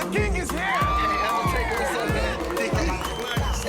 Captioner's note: cheering